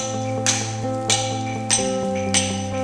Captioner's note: tapping